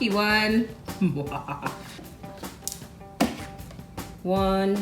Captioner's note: evil laugh